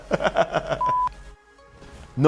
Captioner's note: laughing